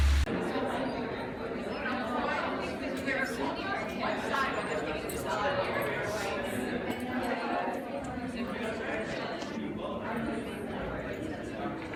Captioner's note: water flowing in pool; conference crowd speaking in background